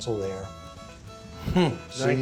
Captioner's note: laughs